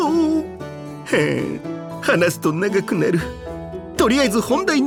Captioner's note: sighs